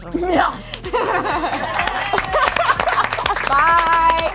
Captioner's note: audience claps